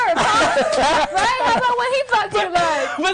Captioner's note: others laughing